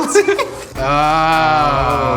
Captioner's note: laughs